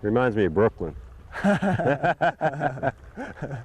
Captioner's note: laughter